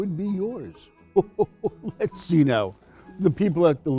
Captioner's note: chuckles